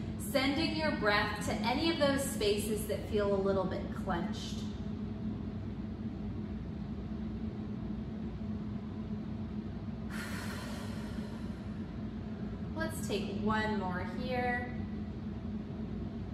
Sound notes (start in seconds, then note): 5.8 breathing